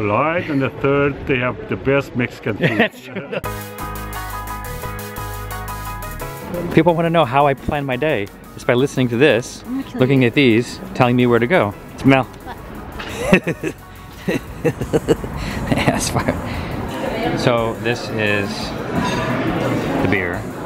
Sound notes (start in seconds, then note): 12.9 laughs